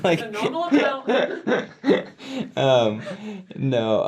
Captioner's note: laughs